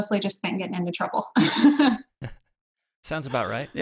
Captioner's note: laughs